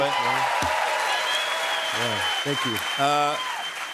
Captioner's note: cheers and applause